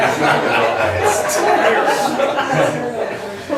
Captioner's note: laughs